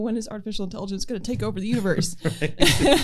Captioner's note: laughter